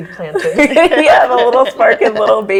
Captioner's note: all laugh